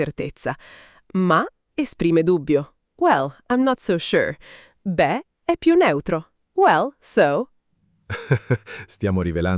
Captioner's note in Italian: risate